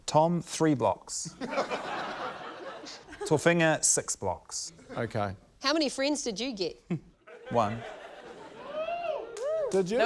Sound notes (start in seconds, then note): 1.3 laughter; 7.3 laughter, whooping